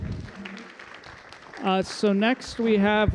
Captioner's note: applause